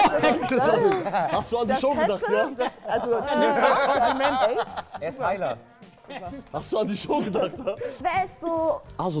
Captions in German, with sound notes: Hast du an die Show gedacht? (Stimmengewirr) Er ist Heiler. Hast du an die Show gedacht? Wer ist so ...